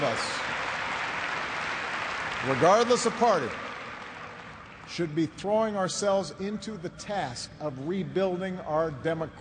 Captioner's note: applause